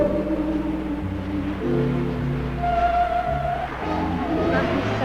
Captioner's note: waves crashing